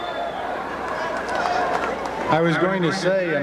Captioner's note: applause